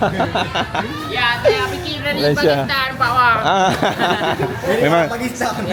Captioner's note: laugh; laugh